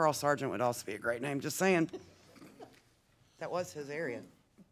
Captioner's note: group laughing